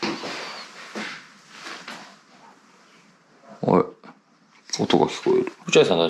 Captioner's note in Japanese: 奥から物音